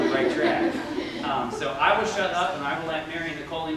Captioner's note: laughter